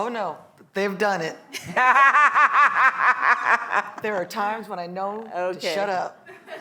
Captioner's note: laugh